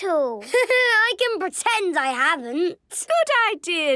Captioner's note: Danny laughing